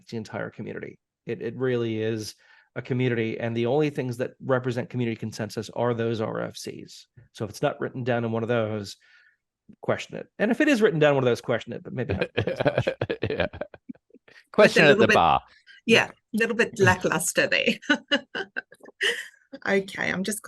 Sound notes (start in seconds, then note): 11.9 laughing; 19.4 laughing